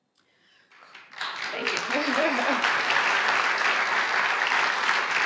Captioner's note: audience applauds